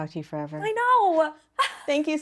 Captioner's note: laughs